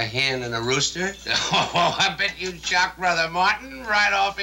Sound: chuckles

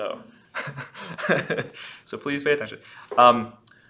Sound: laughs

